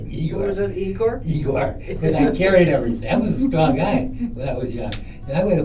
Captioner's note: laughter